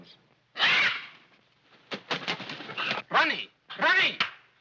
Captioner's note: parrot squawks